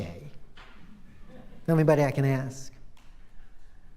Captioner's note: laughter